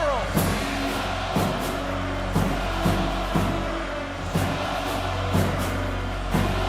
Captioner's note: upbeat music; audience cheers